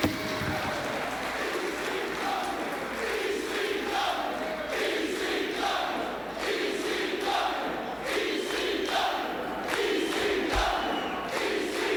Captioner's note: crowd cheering